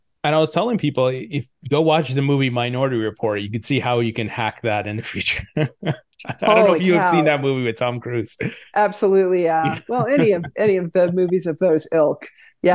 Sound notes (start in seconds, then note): 4.6 laughs